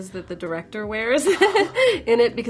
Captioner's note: chuckling